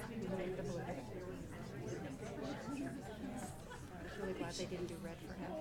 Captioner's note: people chattering